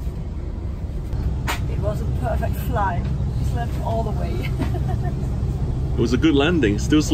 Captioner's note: laughs